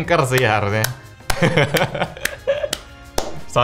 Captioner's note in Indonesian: ketawa